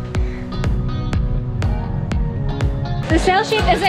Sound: boat humming

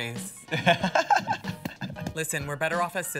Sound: laughs

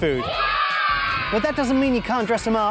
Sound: kids cheer

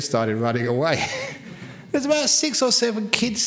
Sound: laughs

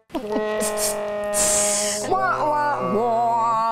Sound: sad trombone; imitates badum tss drum

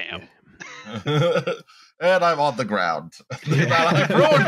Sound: laughter

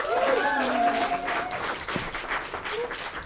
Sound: applause

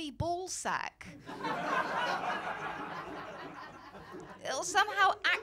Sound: laughter

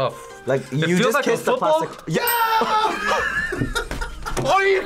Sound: laughs

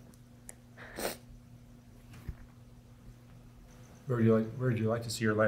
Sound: sniffling

